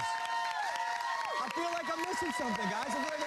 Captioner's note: cheers and applause